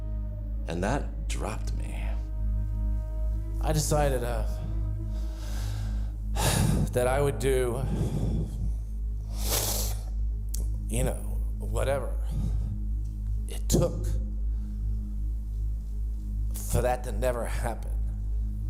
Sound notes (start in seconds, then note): 6.3 sighs; 8.8 sobs